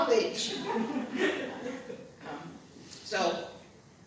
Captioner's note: laughter